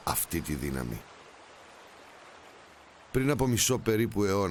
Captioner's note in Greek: ήχος νερού που τρέχει